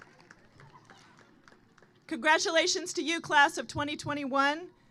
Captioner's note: applause